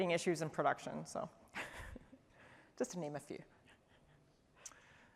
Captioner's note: laughter